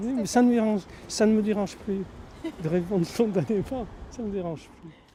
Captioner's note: laughs